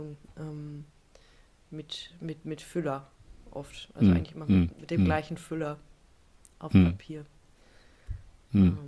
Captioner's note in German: räuspern